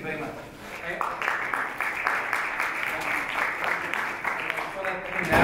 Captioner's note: audience clapping